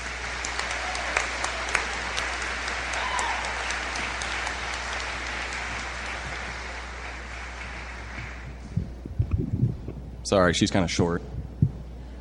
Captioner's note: applause